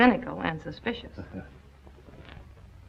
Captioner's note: laughs